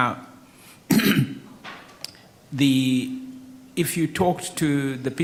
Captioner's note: clears throat